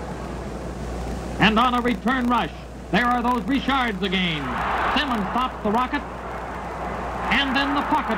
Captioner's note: CROWD OOHs